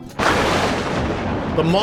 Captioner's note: thunder